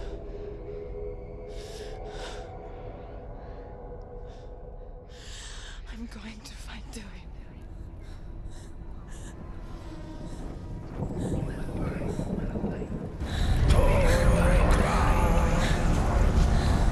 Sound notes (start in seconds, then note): 10.5 indistinct chatter